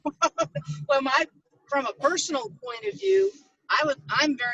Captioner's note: laughs